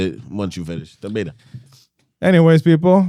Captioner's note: speaking In Foreign Language